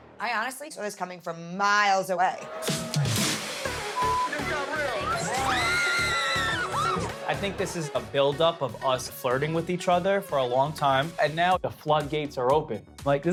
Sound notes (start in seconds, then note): 4.7 crowd yells